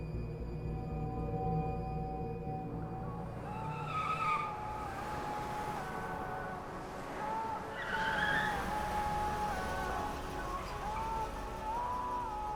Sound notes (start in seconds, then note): 0.6 eerie music; 3.4 car ties screeching; 4.3 car radio music